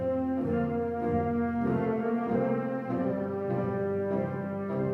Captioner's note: none